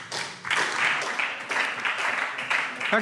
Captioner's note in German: Beifall SPD